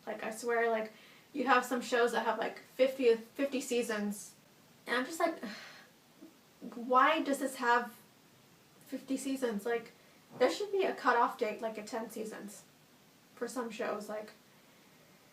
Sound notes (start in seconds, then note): 5.4 annoyed sigh